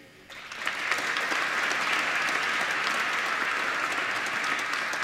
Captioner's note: applause